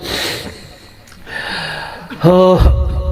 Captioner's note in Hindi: अचानक ज़ोर से सांस लेने की आवाज़